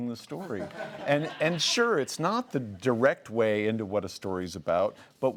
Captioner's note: laughs